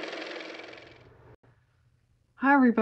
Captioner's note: car motor